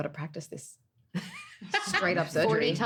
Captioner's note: laughing